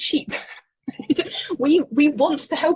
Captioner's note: laughing